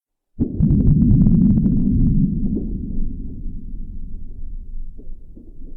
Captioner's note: muffled vibrations pulsating